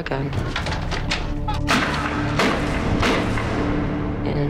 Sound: gunshots

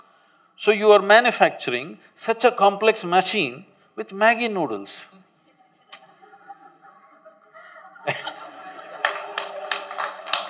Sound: laughter/Applause

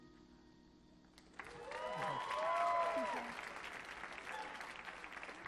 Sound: audience cheers and applauds

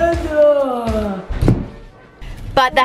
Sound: Stephen thudding

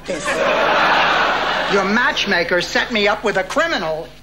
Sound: audience laughing

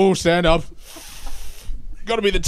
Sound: sucks teeth

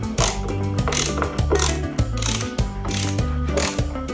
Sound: torquing

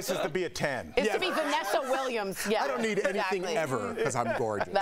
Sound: laughter

